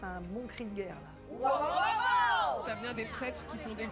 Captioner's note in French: cri de guerre